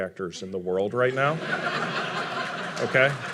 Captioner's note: audience laughing; audience applauding